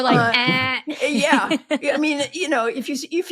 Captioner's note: imitating buzzer